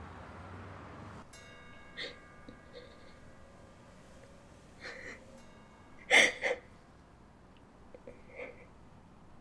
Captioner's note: sound of the pendulum clock; Sound of Jiwon's sobbing